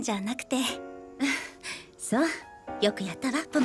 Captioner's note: chuckles